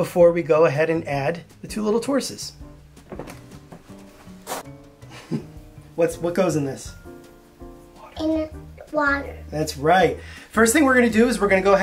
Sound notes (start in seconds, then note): 7.5 whispers